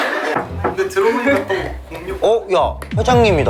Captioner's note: knock knock